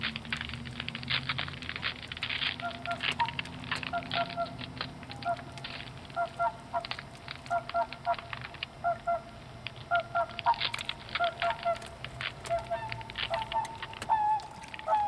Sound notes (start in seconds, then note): 2.4 water fowl calls